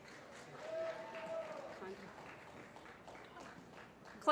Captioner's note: applause